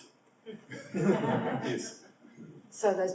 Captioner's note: audience laughs